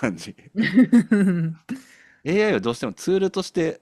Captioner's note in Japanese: 笑い